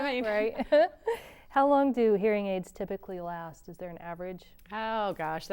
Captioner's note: laughter